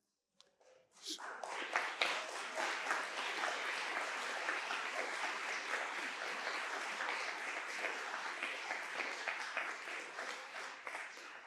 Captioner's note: applause